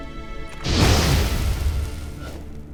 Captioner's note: explosion